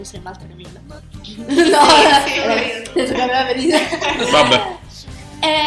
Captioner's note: laugh